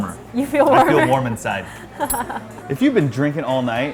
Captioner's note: laughs